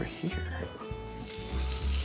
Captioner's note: sizzling